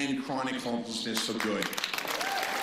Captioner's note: crowd clapping